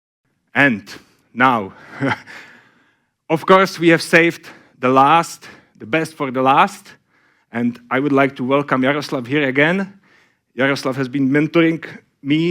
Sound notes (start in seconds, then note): 1.8 laughs